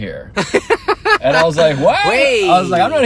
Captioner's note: laughing